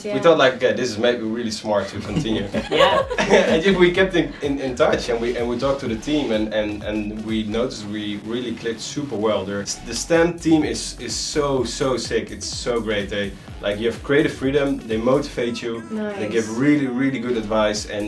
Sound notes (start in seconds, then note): 1.8 laughing